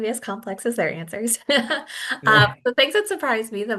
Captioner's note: chuckles